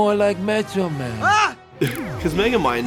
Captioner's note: screams